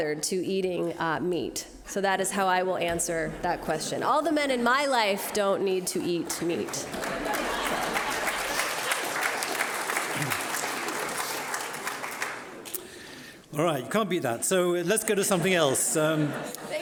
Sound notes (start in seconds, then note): 6.6 applauding; 6.9 audience laughing